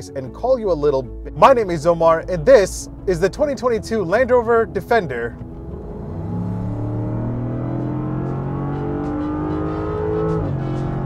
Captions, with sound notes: and call you a little. My name is Omar, and this is the 2022 Land Rover Defender. (car revving) (upbeat music)